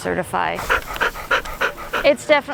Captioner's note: dog panting